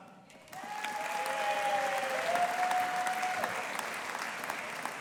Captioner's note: audience applauding